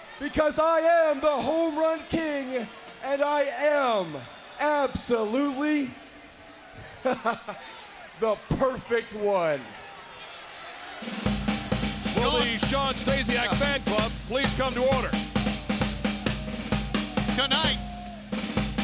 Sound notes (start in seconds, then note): 6.8 chuckles; 11.3 upbeat marching music